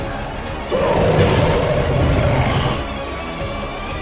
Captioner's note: bull grunts